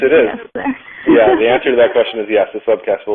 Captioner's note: laughs